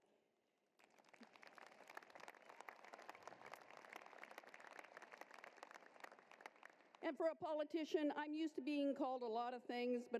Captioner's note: applause